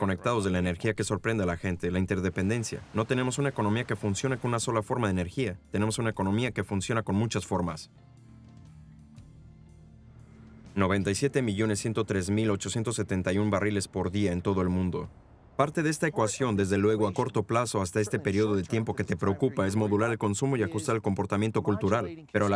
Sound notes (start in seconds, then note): 5.3 water splashing; 8.7 soft music